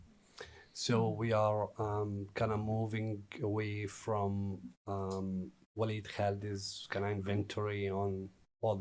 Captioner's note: non-english